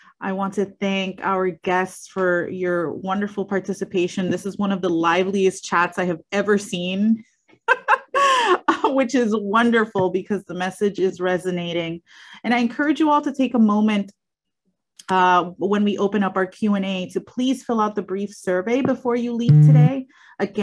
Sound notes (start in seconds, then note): 7.6 laughs